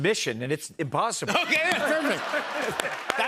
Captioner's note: laughter